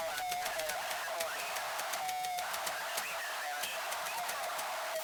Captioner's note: radio feedback squelches